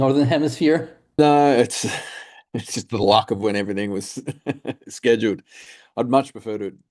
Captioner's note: chuckles